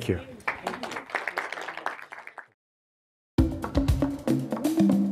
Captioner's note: audience applauds